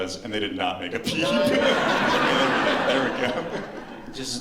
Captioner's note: laughter